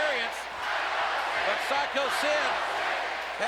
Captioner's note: crowd chants "Sycho Sid"